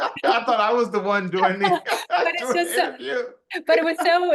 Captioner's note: laugh